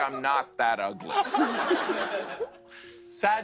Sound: laughter

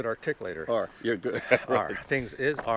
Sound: laughing

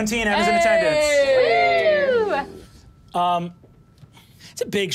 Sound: audience cheering

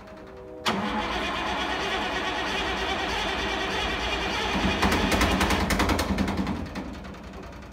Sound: engine struggles some more

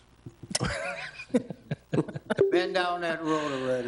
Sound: laughing

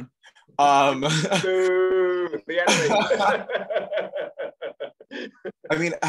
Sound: all laugh

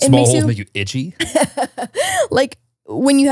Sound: laughs

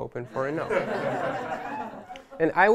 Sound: laughter

